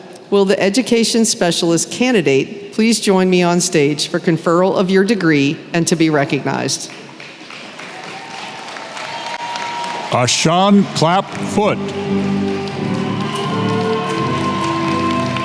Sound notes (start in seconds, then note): 7.5 applause